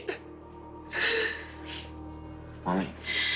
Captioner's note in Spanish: Sollozos